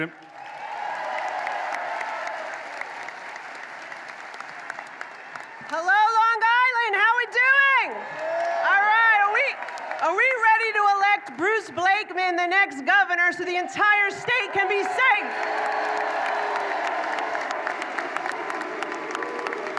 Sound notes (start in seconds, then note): 5.6 applause